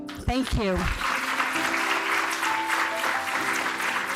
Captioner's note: applause